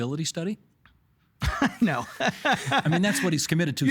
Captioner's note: laughing